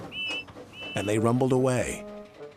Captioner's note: blows horn